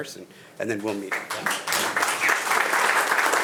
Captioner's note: attendees applauding; speaks faintly